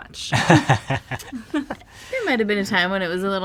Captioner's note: laughing